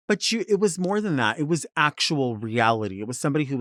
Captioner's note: none